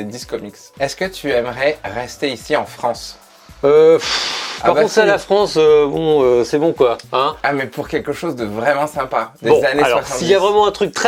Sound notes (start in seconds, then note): 4.0 sigh